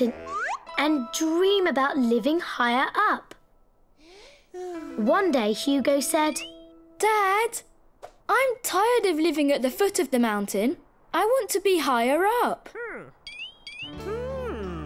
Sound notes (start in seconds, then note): 4.0 Hugo sighs